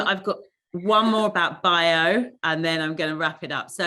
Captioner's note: none